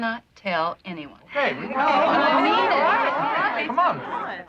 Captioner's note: chattering